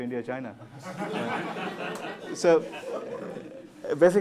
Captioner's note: laughter